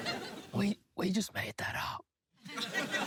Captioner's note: laughter; quietly; laughter